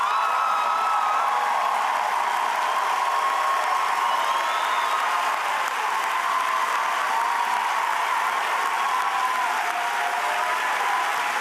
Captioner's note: cheers